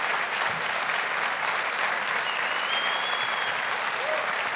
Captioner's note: audience applauding